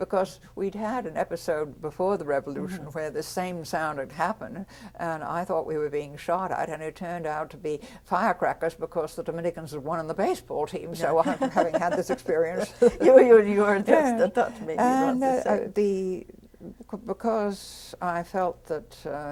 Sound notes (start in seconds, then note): 15.8 laughter